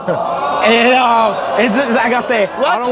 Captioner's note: audience hollers